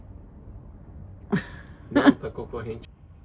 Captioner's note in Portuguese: risadas